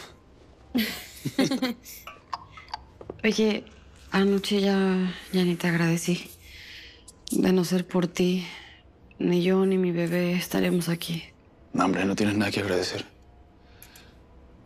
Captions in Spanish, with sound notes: - Chelo. [Risas] - Oye, anoche ya... ya ni te agradecí. De no ser por ti, ni yo, ni mi bebé estaríamos aquí. - No hombre, no tienes nada que agradecer.